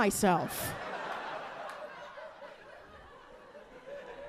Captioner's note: audience laughing